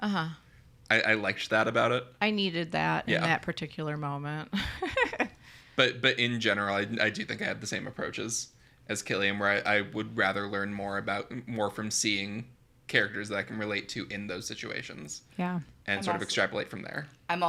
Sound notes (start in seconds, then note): 5.3 laughs